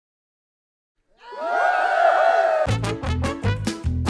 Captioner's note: cheering